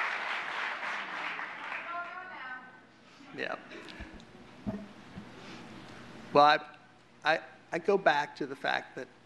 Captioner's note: gavel